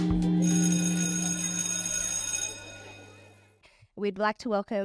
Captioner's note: bell ringing